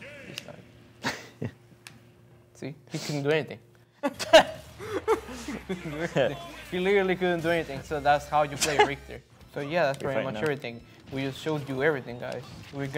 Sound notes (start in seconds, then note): 1.1 laughs; 4.0 both laugh